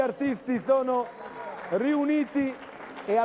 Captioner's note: Applauso